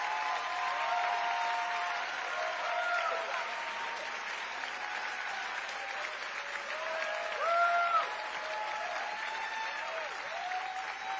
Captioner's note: cheering